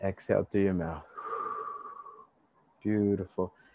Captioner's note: exhale deeply